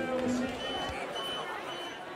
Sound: beeping

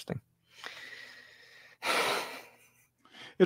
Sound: laughs

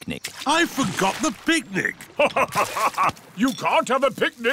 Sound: laughs

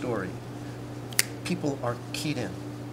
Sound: snaps

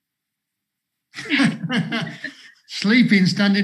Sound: both laugh

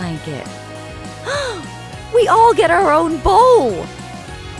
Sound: gasping

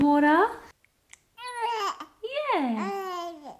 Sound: baby cooing

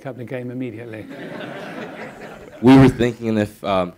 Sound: audience laughing

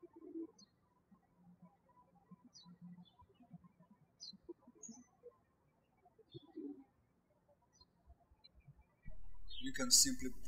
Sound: birds chirping

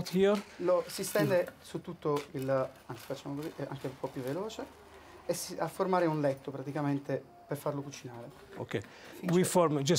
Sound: speaking Italian

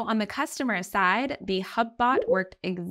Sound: chat bubble blooping

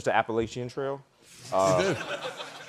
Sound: chuckling

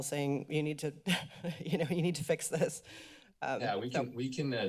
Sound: laughs

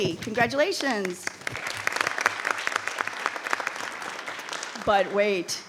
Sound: audience applauding

